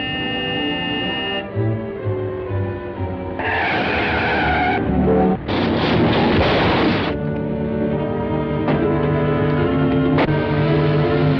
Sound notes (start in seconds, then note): 3.3 tires screeching; 5.4 crashing noise; 7.7 suspenseful music